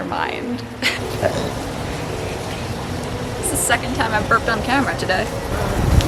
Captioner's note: burp